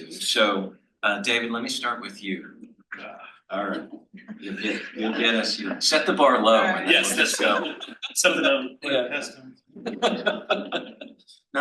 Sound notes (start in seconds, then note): 4.4 panel laughs; 9.9 laughs